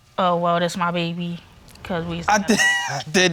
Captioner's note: laughs